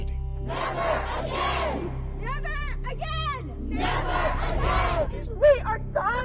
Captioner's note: protesters chant